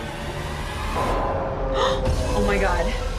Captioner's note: gasping